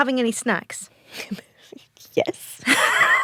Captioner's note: both laugh